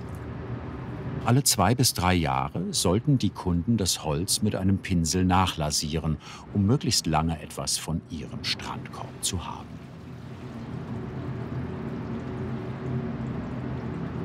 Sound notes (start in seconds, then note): 9.8 constant roar, rippling